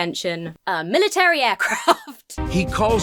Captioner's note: laughs